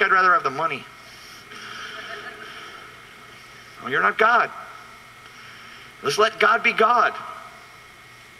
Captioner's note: laughs